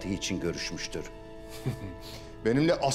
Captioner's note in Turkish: Gülme sesi